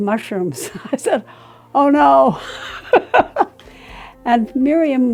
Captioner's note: laughing